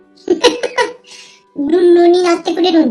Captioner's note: laughs